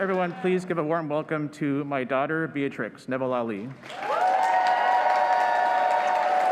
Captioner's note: cheers and applause